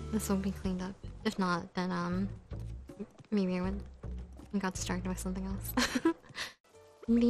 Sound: laugh

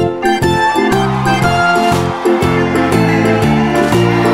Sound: audience cheering

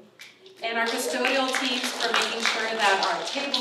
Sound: applause

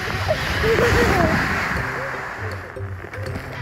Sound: laughing

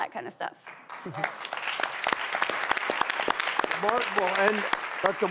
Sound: audience applauding

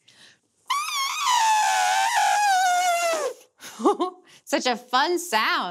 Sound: trumpeting

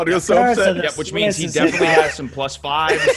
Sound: laugh

